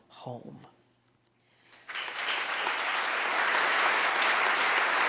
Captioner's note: audience applauding